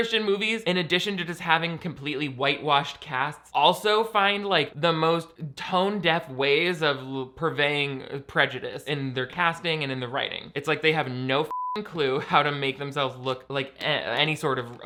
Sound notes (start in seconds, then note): 11.5 beep